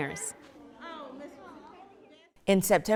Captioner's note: people chattering